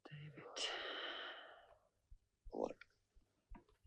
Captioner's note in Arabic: تتنهد